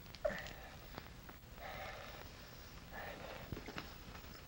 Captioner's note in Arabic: تنفس ثقيل